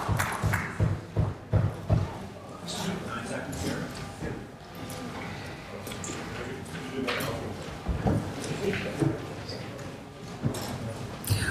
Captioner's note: applause